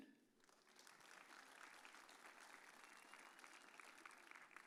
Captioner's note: audience applauds